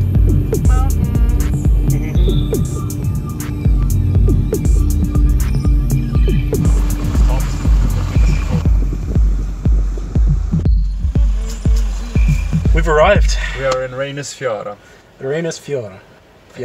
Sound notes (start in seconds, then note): 11.0 motor running